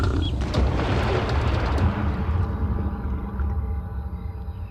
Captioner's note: water splashing